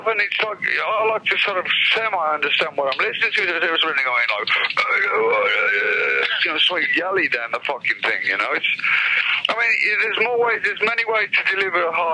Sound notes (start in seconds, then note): 5.7 growling